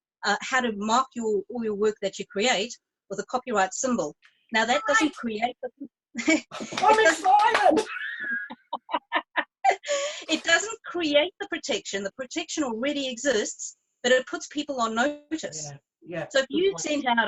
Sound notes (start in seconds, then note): 7.6 both laughing